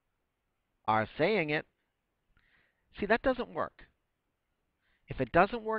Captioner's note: pause; pause